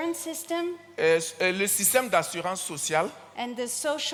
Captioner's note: continues in French